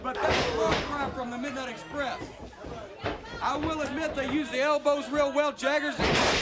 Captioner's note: crowd cheering